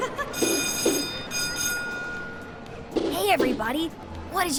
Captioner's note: Spark giggling; bell ringing